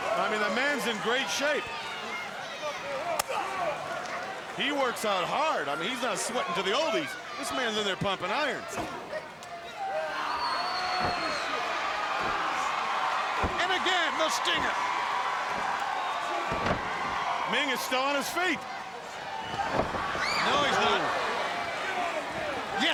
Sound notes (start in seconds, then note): 11.8 audience cheering